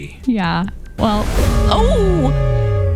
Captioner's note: klaxon Horn